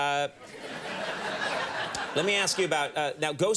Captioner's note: audience laughing